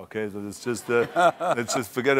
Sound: laughter

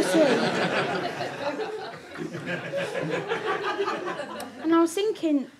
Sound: audience laughter

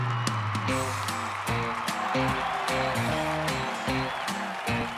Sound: crowd cheering; upbeat music

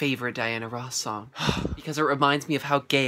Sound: sigh

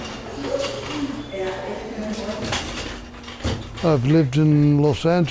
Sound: people chattering

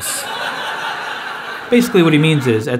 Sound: audience laughs

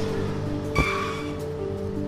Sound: tires squeal and hit curb

